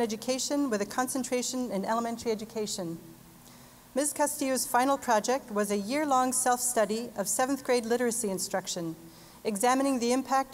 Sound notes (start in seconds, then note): none